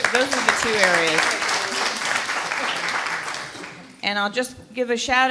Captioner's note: applause